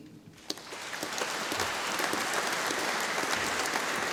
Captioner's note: audience applauding